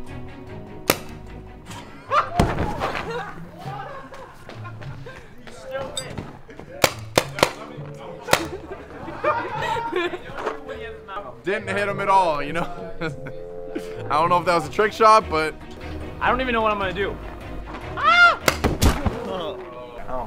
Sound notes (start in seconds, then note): 1.7 laughter; 6.8 paint ball gun clacking; 8.4 laughter; 17.9 screams